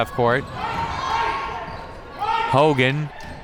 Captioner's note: crowd members shouting